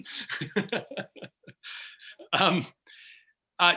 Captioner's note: laughing